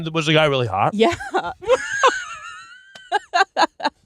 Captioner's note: laughs